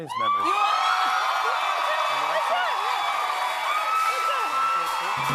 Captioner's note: cheers and applause